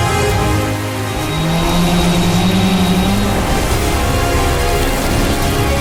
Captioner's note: drone Buzzing